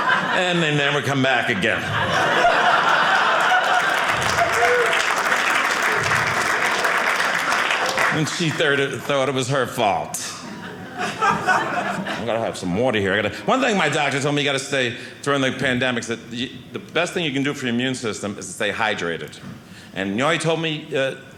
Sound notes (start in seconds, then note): 2.1 audience cheering; 10.4 audience laughing